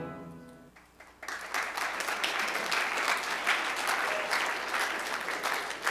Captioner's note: applause